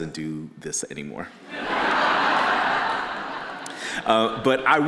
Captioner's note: audience laughing